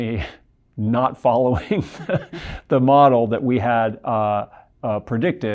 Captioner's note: laughs